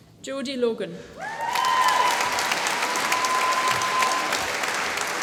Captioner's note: applause